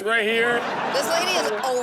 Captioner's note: audience laughs